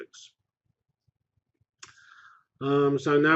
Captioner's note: pause